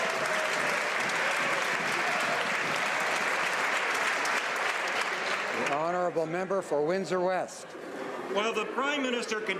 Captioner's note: some Applause